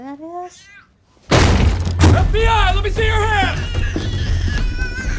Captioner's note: door smashes; baby continues crying